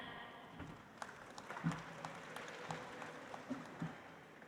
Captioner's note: audience applauds